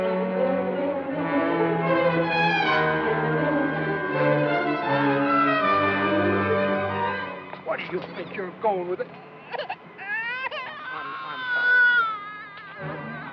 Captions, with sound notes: -Where do you think you're going with it-- [baby crying] Aw honey, I'm sorry.